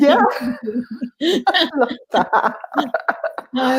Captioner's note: laughing